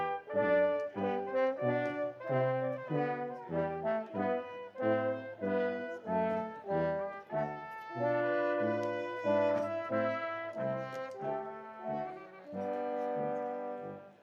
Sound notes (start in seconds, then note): none